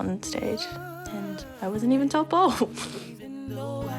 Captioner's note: chuckles